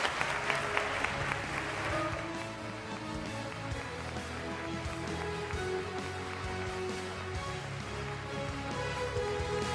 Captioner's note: applause